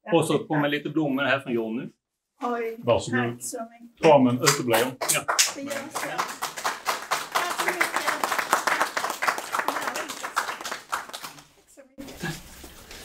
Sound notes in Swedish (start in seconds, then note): 4.3 applåder